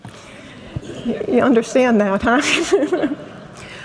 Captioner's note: laughs